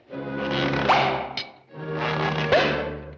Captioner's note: hollow echo